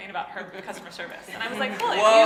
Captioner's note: laughing